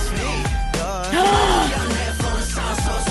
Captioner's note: gasp